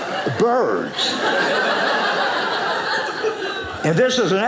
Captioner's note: audience laughing